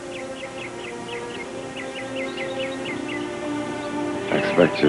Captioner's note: birds chirping